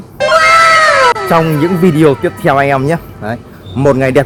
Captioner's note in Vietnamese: la hét